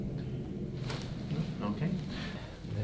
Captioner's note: crack